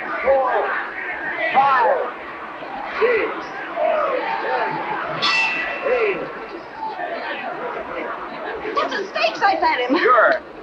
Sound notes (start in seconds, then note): 5.2 bell rings